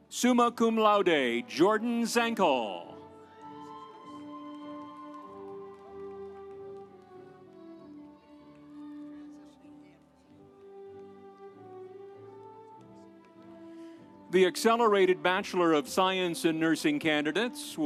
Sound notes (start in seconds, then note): 3.4 audience cheering; 4.8 instrumental music